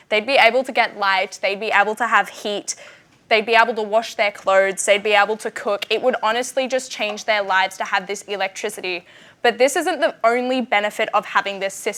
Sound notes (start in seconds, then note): none